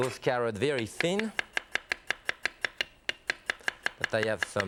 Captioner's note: sound of cutting Carrots